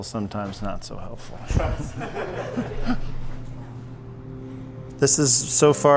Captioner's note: everybody laughing